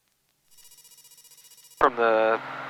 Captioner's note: phone rings